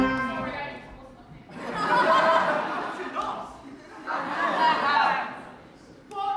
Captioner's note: audience laughter